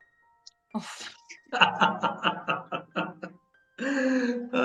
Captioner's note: laugh